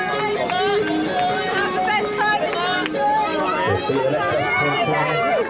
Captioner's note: energizing music; crowd cheers one another on